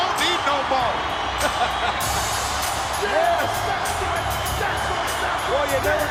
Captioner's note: laugh